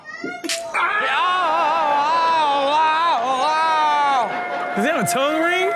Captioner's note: audience reacts; man screams